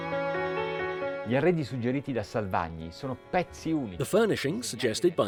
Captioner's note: speaking in foreign language